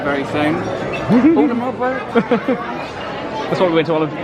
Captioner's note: laughs